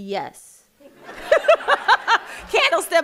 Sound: audience laughing

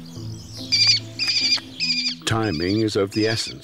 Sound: bird chirping

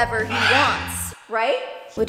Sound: Rocky squawks

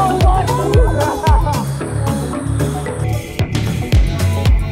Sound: laughter

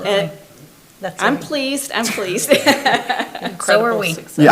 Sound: laughs

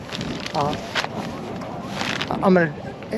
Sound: plastic crackling

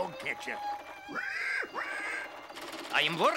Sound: pig grunting

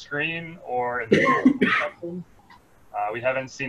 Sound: coughs

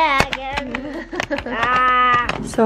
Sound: laughs

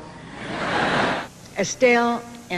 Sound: audience laughter

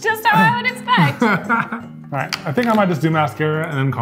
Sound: laughing

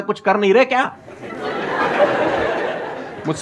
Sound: laughing

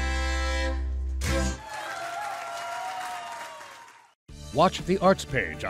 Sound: crowd cheering

